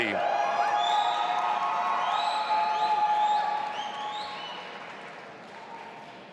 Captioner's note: audience applauding and cheering